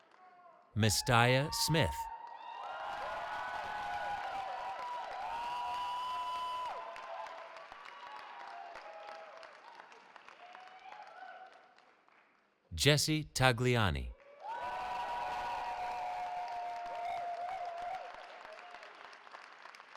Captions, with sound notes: Mistaya Smith. [CHEERING] Jessie Tagliani. [CHEERING]